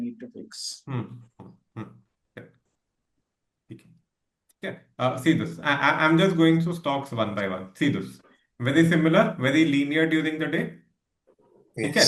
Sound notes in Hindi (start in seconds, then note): 4.0 गला साफ़ करने की आवाज़